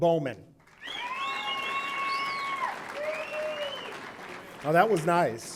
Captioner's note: audience applauding; audience cheering